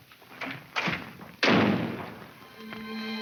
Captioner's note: door slams; dramatic music